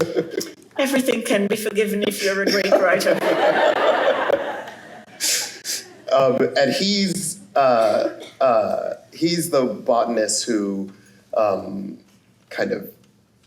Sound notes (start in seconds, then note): 2.5 laughter